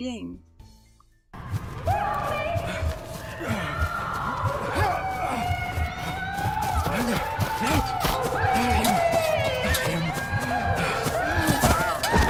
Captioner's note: ghostly screams and panting